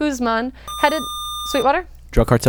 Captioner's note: buzzer